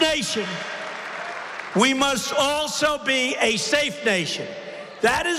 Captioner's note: applause